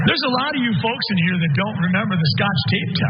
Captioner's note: laugh